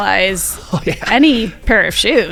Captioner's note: laughs